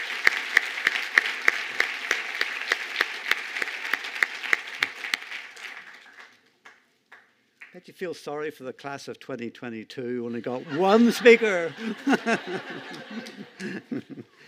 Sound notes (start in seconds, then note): 3.9 cheers and applause